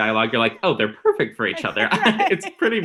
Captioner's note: laughing